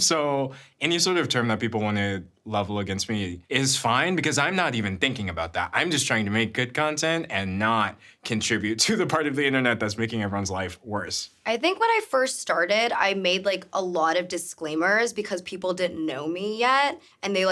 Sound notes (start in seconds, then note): none